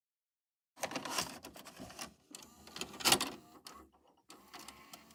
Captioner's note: VHS tape being inserted